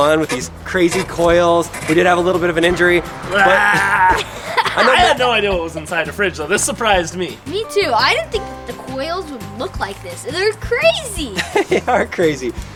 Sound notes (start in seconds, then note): 3.2 grunts